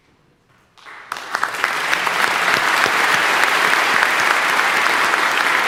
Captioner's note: audience applauding